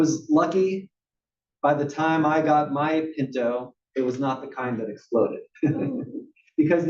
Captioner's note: laugh